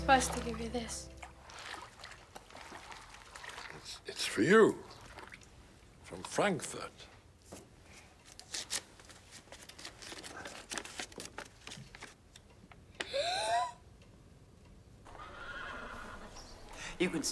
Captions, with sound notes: Supposed to give you this. It's-it's for you. From Frankfurt. [gasps] [horses neighing]